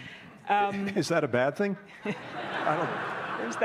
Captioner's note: laughter